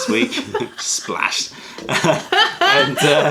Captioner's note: laughter